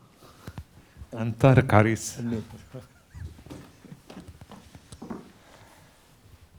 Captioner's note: speaking a foreign language